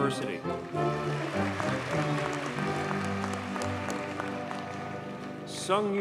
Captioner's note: audience cheers and applauds